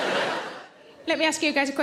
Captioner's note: audience laughs